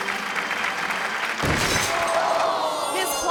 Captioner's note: orchestral music; crowd clapping; crowd clamoring; conductor thuds